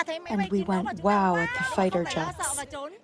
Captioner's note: through translator